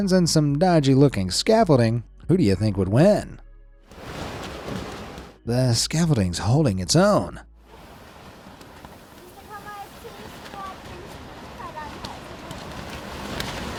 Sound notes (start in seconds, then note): 3.9 wind roars; 4.0 plastic flapping; 13.5 wind roaring continues